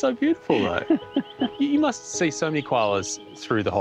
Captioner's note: chuckles